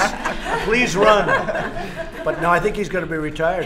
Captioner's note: laughter